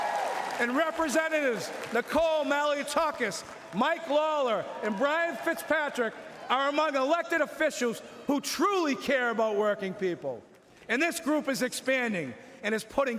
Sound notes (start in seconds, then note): 4.1 cheering